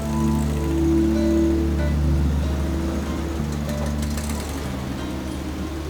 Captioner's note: car engine